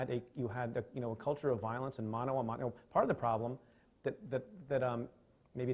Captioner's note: stutters